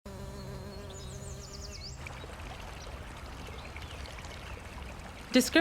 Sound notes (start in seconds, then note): 0.0 bee buzzing; 1.0 water flowing